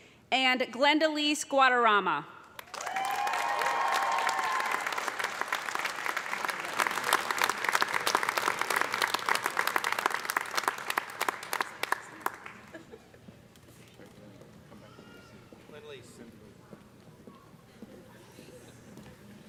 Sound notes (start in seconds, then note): 2.4 cheers and applause; 14.4 murmuring